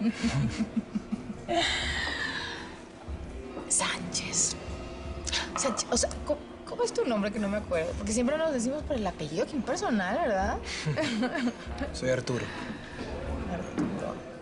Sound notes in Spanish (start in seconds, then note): 4.0 Susurra; 10.8 Risas